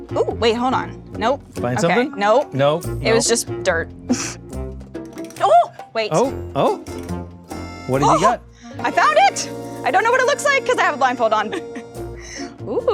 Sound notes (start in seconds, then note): 8.5 gasps; 11.3 chuckles